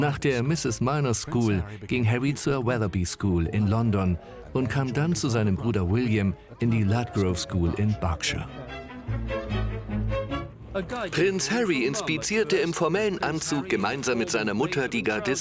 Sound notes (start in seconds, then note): 8.0 engergetic music; 10.8 voiceover